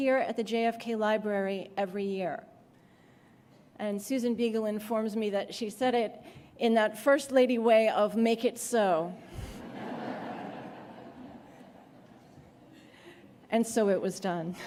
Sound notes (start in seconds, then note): 9.4 laughter